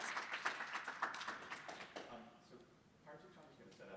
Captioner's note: applause